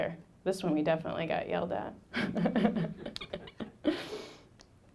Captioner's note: laughing